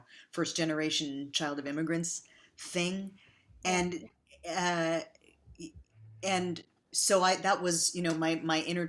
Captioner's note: none